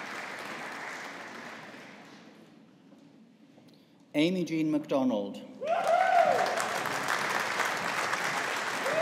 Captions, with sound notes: Amy Jean MacDonald. (AUDIENCE APPLAUDING)